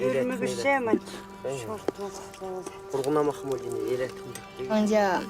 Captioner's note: family speaking Uyghur